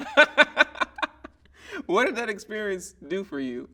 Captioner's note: laughing